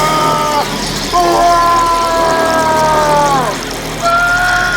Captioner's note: screaming